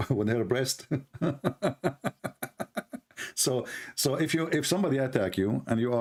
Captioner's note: Ketawa